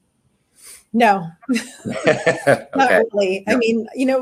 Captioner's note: laughs